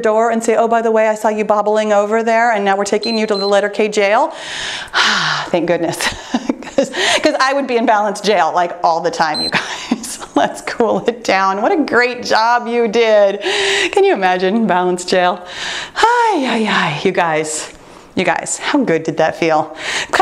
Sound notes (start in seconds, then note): 2.9 timer beeps; 9.3 timer beeps